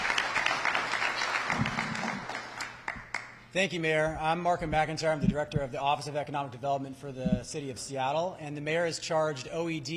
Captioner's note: applause